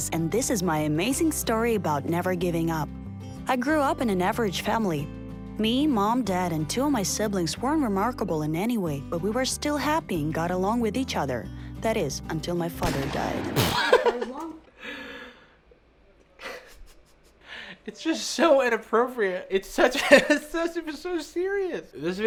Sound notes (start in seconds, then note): 12.8 gunshot; 13.6 laughs; 20.0 chuckles